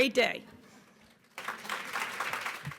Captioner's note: applause